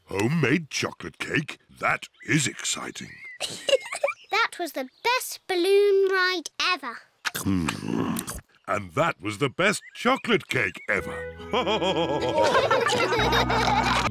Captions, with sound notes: Homemade chocolate cake? That is exciting! (GIGGLES) That was the best balloon ride ever! Hmm! And that was the best chocolate cake ever! (ALL LAUGHING)